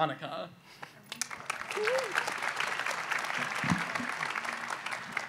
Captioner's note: audience applauds